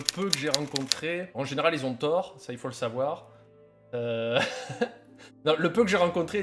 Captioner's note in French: rires